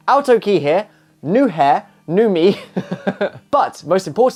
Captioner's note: laughs